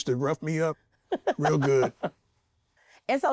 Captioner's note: laughs